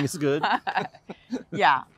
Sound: laughter

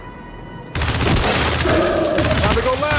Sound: gunfire

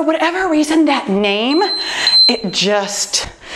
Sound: timer beeps

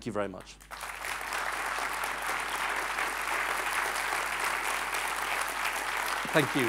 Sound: applause

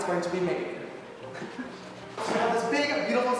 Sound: giggles

